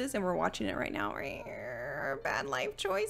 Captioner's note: groaning